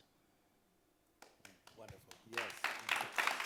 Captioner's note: audience claps